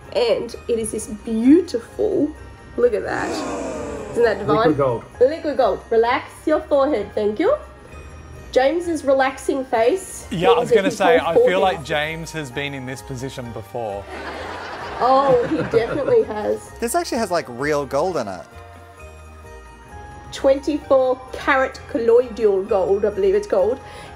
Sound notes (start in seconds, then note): 14.0 laughter